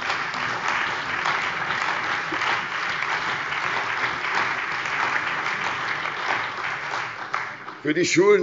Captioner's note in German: Beifall bei der CDU und dem BÜNDNIS 90/DIE GRÜNEN